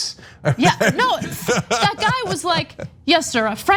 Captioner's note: laugh